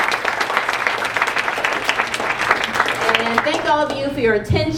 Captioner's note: applause